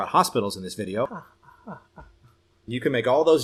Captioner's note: fake laughing